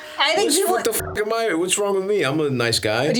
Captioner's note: beeps